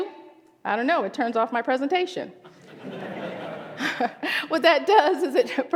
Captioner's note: laughter